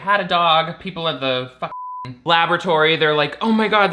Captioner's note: beep